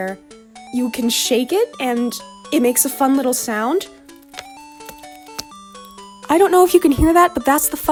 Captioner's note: rattling noises